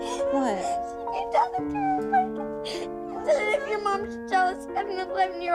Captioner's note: crying